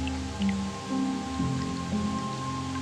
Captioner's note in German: Wasser tropft